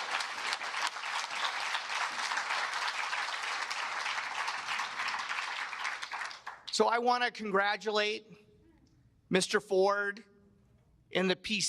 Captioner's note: cheers and applause